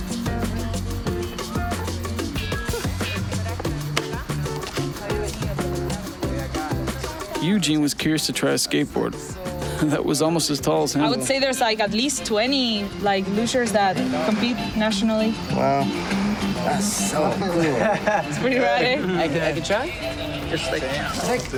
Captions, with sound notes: (Upbeat Music) (Speaking In Foreign Language) Eugene was curious to try a skateboard that was almost as tall as him. I would say there's like at least 20 like lushers that compete nationally. Wow. That's so cool.